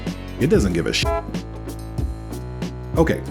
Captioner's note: honk